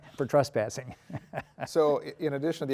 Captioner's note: laughing